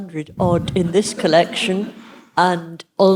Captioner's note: audience laughing